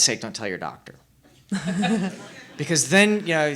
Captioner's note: laughing